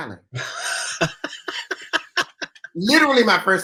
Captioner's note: laughs